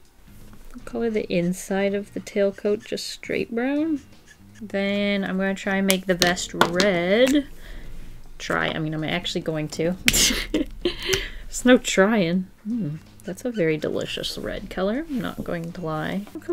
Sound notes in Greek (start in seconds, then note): 10.3 Γέλια